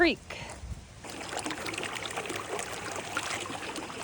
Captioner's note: creek babbling